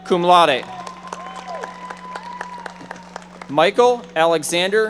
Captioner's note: audience members applauding